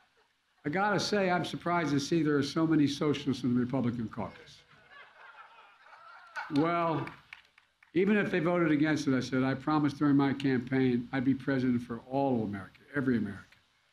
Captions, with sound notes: I got to say, I'm surprised to see there are so many socialists in the Republican Caucus. (Laughter.) Well, even if they voted against it, I said, I promised during my campaign I'd be President for all of America, every American.